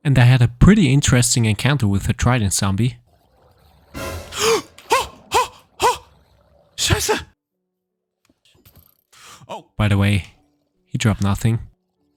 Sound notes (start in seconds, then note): 3.9 dramatic music; 4.2 gasping; 5.4 speaking in foreign language